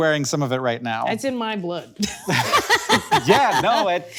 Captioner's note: laughing